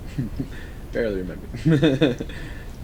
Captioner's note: laughing